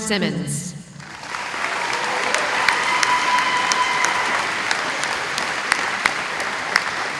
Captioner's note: applause